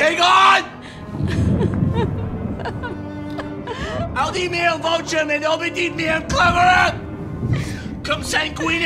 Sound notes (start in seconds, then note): 0.7 Vanessa crying; 4.4 speaks in foreign language